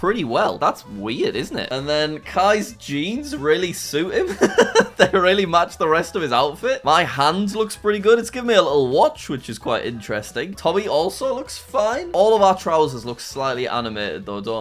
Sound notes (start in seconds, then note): 4.2 laughs